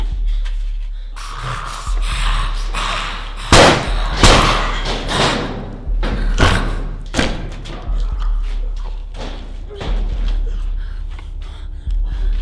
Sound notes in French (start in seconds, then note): 3.5 Deux coups de feu